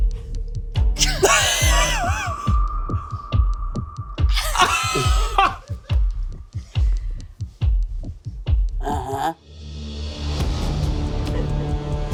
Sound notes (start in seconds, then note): 1.0 dramatic music continues; 2.0 people laughing; 11.9 dramatic music continues